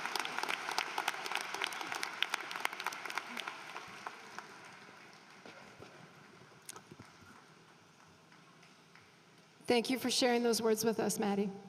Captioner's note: applause